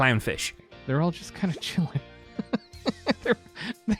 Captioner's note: laughs